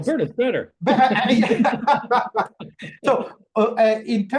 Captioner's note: both laughing